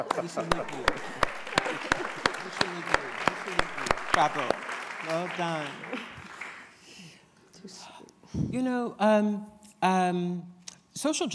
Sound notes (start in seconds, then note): 4.3 applause